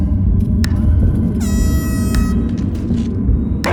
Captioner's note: time-cap buzzer sounds